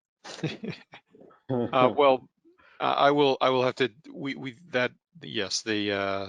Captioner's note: chuckles